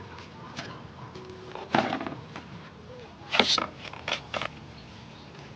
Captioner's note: crisp slicing sound